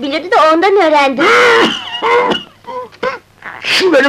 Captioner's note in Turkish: Derin öksürükler